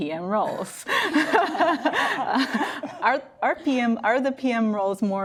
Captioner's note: everyone laughs